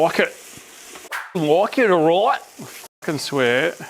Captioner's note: tough boi voice